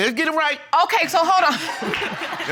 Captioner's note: laughs